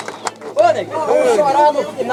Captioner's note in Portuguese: Aplausos